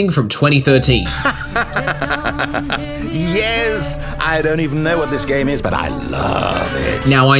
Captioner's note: evil laughter